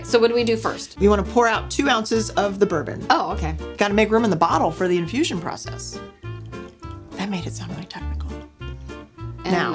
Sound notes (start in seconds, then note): 6.0 drink pouring